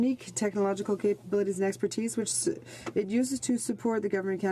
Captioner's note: speaking in french